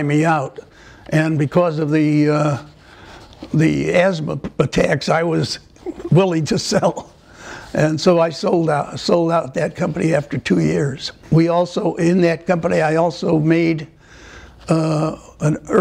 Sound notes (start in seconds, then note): 5.8 laughter